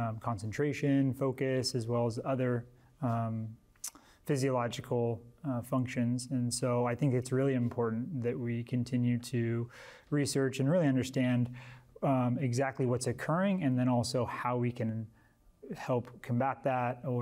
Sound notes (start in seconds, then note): none